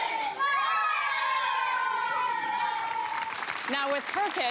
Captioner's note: cheering